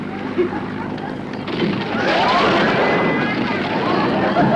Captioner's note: audience laughter